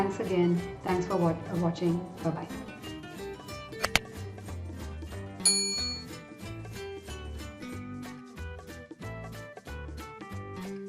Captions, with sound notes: Thanks again, thanks for watching, bye bye. (bell chimes) (soft music)